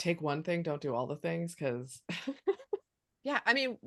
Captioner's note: chuckles